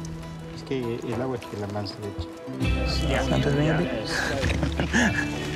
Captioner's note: Spanish language